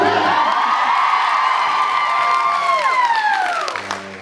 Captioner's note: cheers, applauds